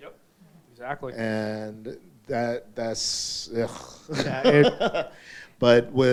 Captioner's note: laughing